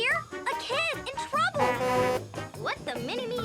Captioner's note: horn honking